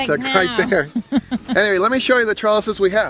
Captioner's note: chuckling